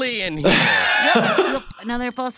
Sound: laughs

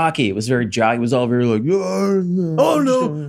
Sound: grunting

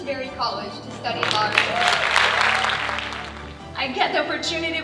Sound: audience clapping

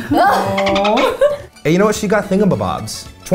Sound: dolphin trilling

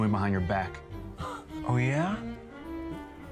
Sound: scoffs

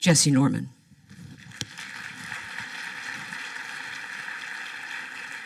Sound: applause

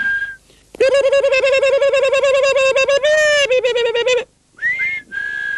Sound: ils sifflent; Native American whooping cry; ils sifflent

